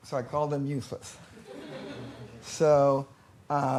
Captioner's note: laughter